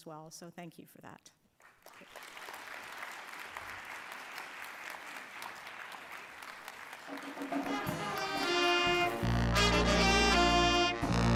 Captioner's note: applause